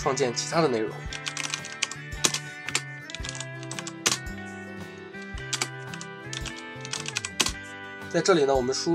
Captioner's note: typing